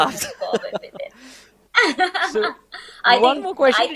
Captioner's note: laughs